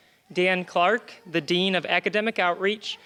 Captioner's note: none